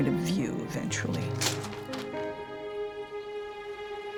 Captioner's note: paper rips